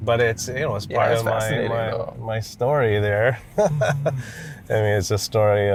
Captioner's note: laughs